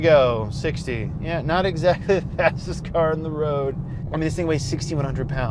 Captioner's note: laughs